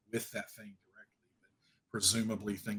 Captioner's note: audio cutting out